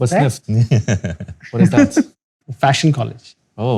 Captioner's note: laughter